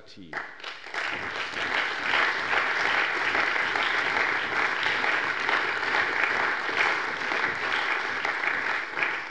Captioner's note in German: Allgemeiner Beifall